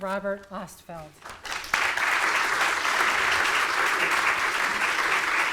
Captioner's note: audience clapping